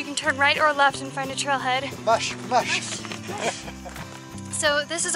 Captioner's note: laughter